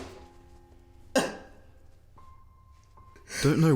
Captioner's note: crying